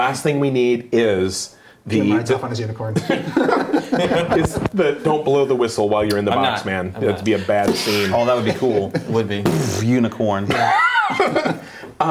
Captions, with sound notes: - The last thing we need is-- (laughing) Don't blow the whistle while you're in that box man. - I'm not, I'm not. - That would be a bad scene. - Oh that would cool. (exploding noise) Unicorn. (laughing)